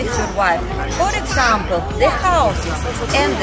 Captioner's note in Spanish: Ruido callejero